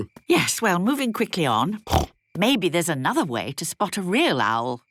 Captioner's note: snorting